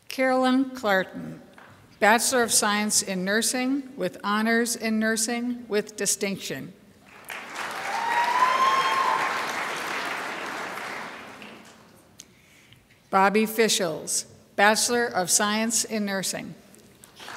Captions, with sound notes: Carolyn Clarton, Bachelor of Science in Nursing with Honors in Nursing with distinction. (crowd applauds) Bobbi Fischels, Bachelor of Science in Nursing.